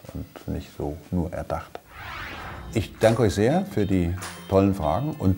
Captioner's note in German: Soundeffekt